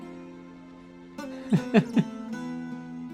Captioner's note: laughs